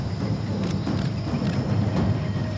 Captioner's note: camera shutter clicks